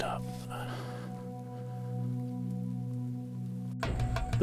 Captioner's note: whispering